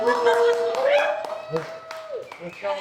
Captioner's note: applause